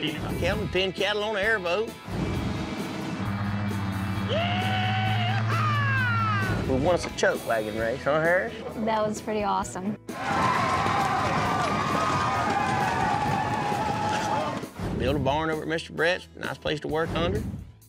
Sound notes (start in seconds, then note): 10.1 flashback, cheering